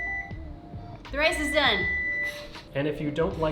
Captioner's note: beeping